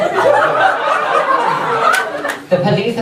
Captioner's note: audience laughs